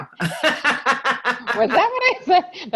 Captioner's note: everyone laughs